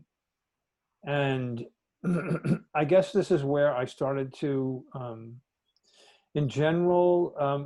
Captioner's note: cough